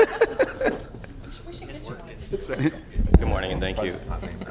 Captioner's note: laughter